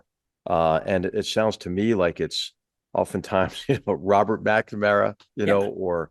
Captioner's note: laugh